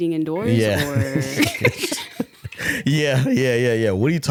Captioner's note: laughing